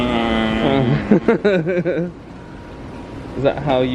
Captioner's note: imitates a blow horn; laughs